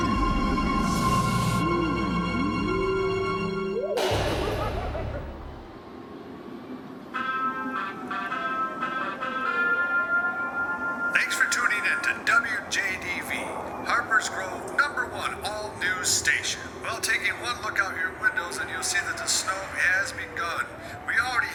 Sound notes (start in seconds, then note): 3.8 evil man laughing; 11.2 radio Announcer